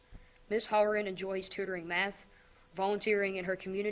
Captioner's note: none